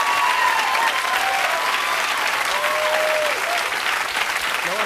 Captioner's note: cheers and applause